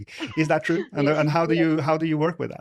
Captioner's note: laughs; laughing